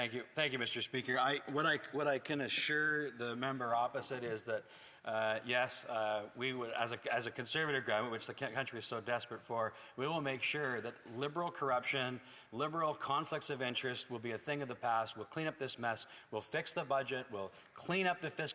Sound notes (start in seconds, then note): 3.3 speaking French